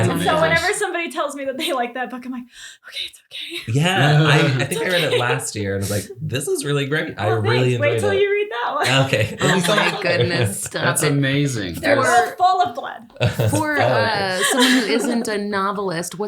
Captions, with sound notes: And so whenever somebody tells me that they like that book, I'm like, okay, it's okay. - Yeah, I think I read it last year, and I was like, this is really great. - Oh thanks. Wait 'til you read that one (laughs) - Oh my goodness, stop it. - That's amazing. - Both full of blood, full of it. - For us, someone who isn't a novelist,